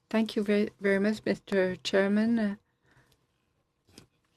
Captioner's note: speaking in french